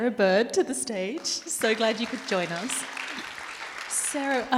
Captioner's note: audience applauds